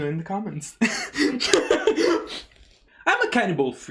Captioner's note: laughs